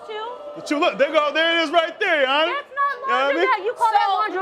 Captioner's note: crowd groaning